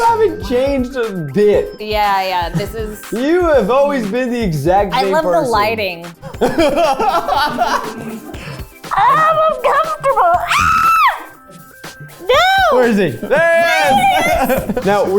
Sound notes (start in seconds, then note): 6.3 laughs; 8.9 screams